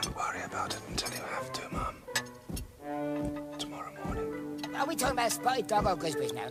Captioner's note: whispers